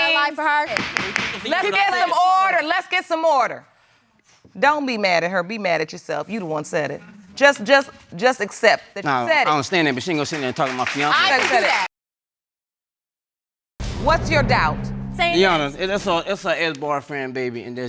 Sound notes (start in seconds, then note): 0.7 gavel banging; 7.3 stammering